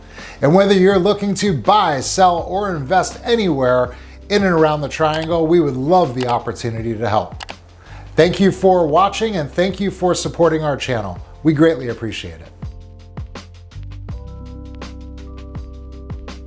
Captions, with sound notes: And whether you're looking to buy, sell or invest anywhere in and around the triangle, (mouse clicking button) we would love (mouse clicking button) the opportunity to help. (mouse clicking button) Thank you for watching and thank you for supporting our channel. We greatly appreciate it. (instrumental jazz music)